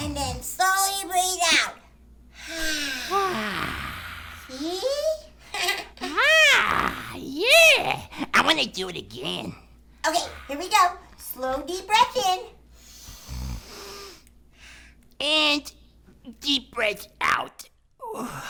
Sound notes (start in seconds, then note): 2.4 breathes out; 13.0 breathes in; 18.1 breathes out